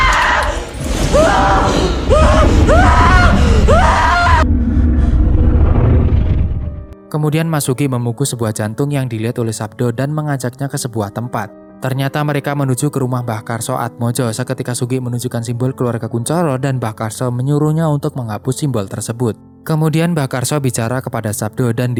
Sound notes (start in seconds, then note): 3.9 shout